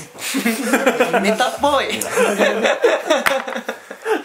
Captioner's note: laughs